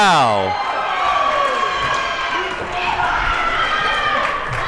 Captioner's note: audience cheering